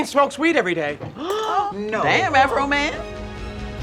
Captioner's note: colleagues gasping in shock; dramatic music